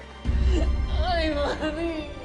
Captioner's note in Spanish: Sollozos